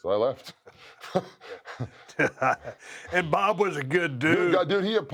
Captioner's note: laugh